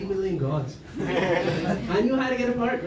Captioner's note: laughter